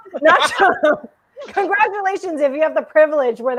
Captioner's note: laughing